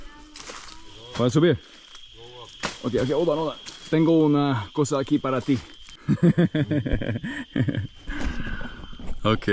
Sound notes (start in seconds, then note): 1.3 speaking in foreign language; 4.0 speaking in foreign language; 6.0 laughing